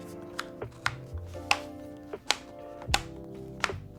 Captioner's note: buttons clicking